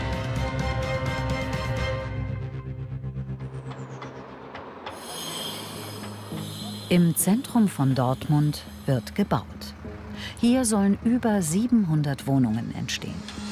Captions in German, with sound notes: (Musik verklingt, Zuggeräusche.) Im Zentrum von Dortmund wird gebaut. Hier sollen über 700 Wohnungen entstehen.